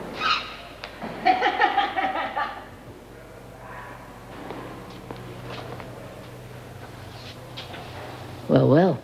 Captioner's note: cackles